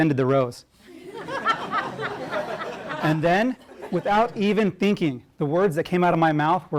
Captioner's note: laugh